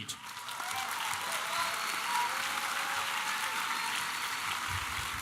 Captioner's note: applause